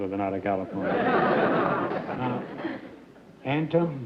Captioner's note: laughter